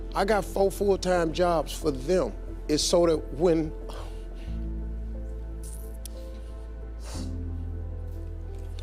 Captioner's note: none